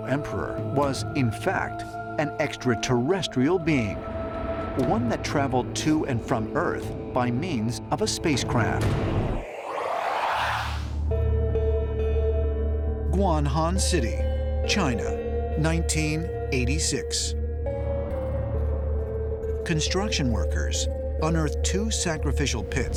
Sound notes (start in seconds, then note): 9.2 otherworldly warbling; 17.7 eerie music playing